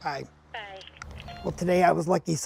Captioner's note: voice on Other End of Phone